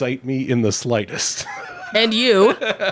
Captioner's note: laughing